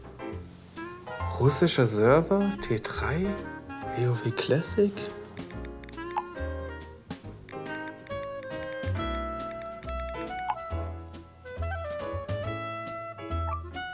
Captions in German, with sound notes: Russischer Server, T3, WoW Classic. (Tippgeräusche)